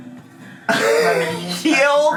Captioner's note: laughs